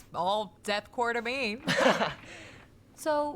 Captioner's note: laughing